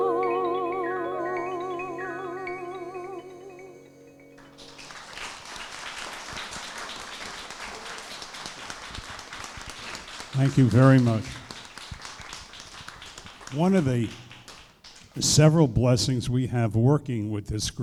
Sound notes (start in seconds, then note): 5.2 applause